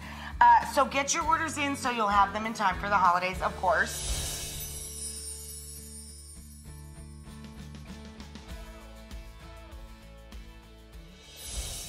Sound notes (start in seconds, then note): 3.9 twinkling; 6.7 upbeat music